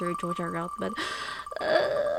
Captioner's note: deep breaths